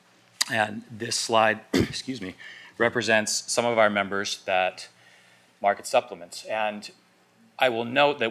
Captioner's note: coughs